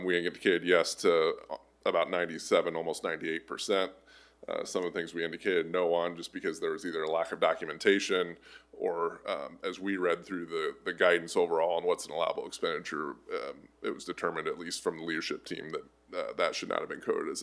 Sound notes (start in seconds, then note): none